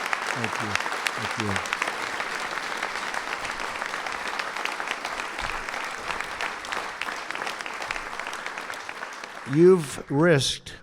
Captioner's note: applause